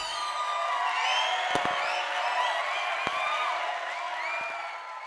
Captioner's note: students cheering